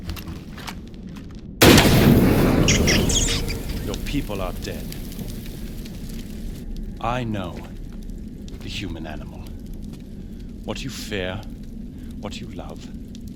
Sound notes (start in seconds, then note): 1.6 bang